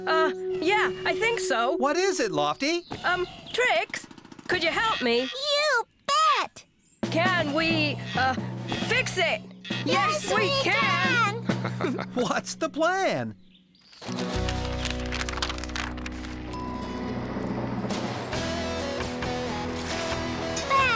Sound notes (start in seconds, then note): 11.4 laughter; 13.8 rustling